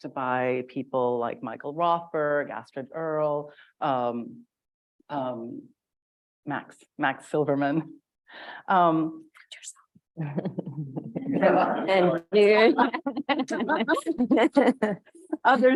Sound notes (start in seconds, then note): 10.2 chuckles; 12.4 laughs; 12.6 audience laughs